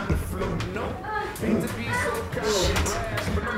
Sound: moaning

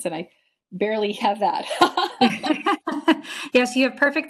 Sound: both laugh

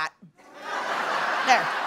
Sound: laughter

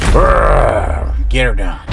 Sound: growls

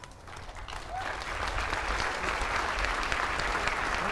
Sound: applause

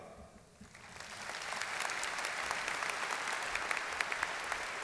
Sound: audience clapping

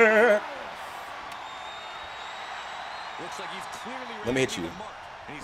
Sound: applause

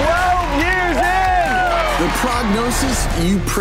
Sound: audience cheers

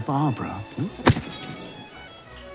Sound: bump

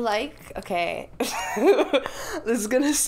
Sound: laughs

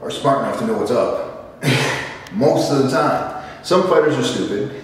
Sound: laugh

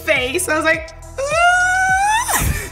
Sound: whimpers

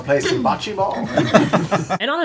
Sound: laughter

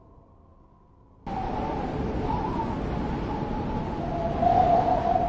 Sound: wind blows loudly

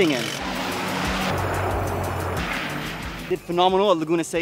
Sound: car engine roaring

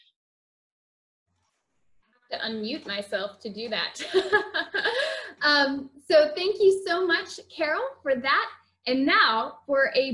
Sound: laughs

